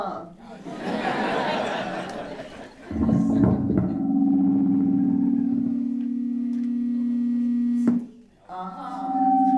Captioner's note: laughter